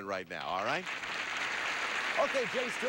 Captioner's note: audience applauding